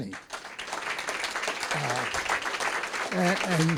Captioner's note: applause